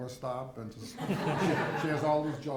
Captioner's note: audience laughs